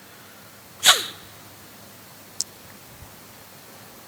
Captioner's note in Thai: เสียงสูดหายใจ